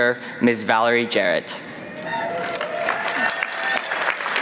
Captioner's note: applause